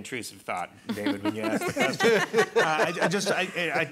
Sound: panelists laughing

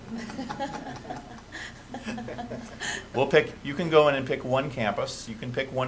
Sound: laughter

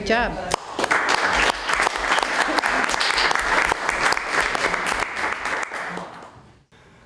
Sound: applause

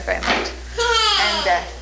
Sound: cries

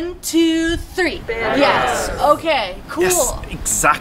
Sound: crowd says a lot of words

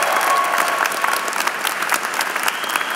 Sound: applause

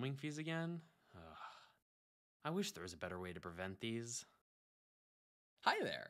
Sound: sigh

